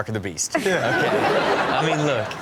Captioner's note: audience laughs